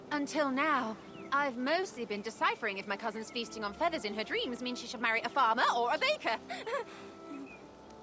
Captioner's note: laugh